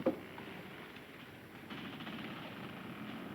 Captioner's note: ship creaking